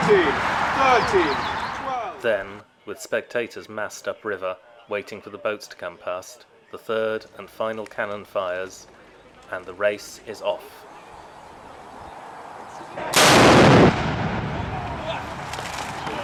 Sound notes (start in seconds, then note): 13.0 canon fires